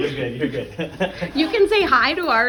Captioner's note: laugh